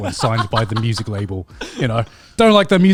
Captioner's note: laughs